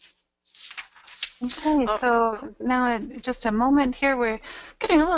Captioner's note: voiceover